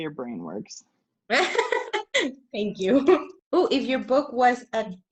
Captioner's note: laughs